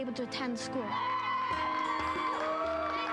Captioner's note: applause